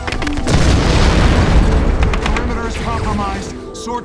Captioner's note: bullets whizzing; explosion blasts